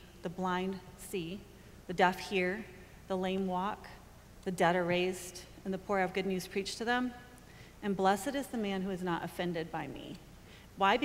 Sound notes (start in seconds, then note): none